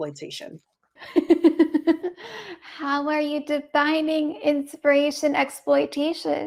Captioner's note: laughs